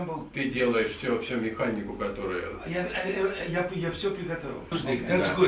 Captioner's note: speak in the Russian language